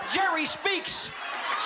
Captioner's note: cheering and applause